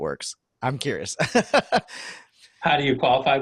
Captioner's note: laughing